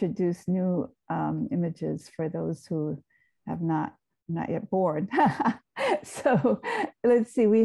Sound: laughs

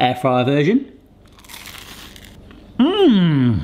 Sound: toast crunching

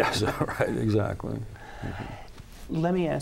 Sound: laughs

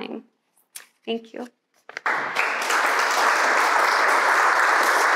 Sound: audience clapping

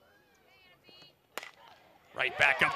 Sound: ball hitting bat

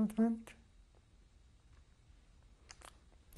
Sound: pauses for 3 seconds

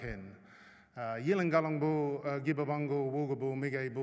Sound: non-english speech

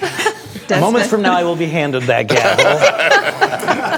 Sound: laughter

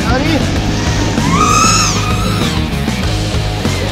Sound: in Slovenian; rope whizzing

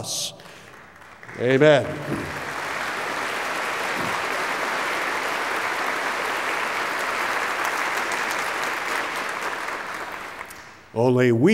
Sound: applause

